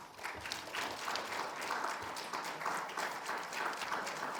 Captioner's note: audience applauds